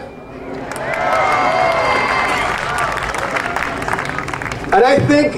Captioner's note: audience cheering and applauding